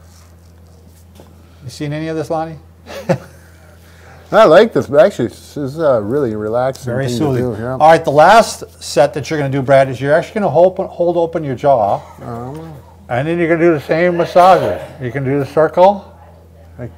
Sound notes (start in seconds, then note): 3.0 laughs